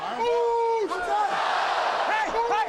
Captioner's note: audience cheers